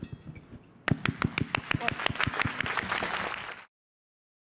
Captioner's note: applause